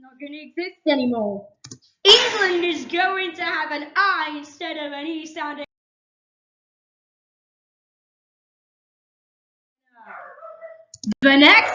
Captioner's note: boom